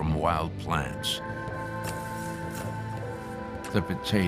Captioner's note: digging